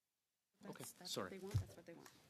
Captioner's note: speaking French